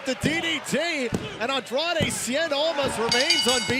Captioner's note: bell